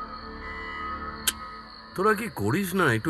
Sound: clicks tongue

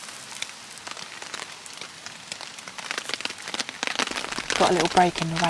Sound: rain on tarp

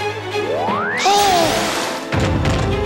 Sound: baby laughing

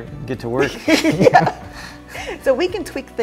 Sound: hehe hehe

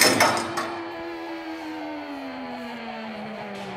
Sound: metal clinking

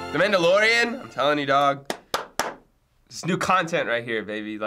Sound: claps

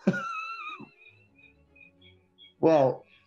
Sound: sniggering; echoes as feedback

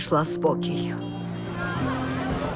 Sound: horns honking

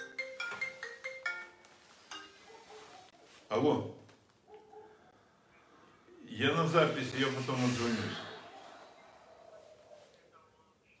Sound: phone rings

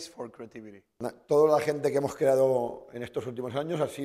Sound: speaking spanish

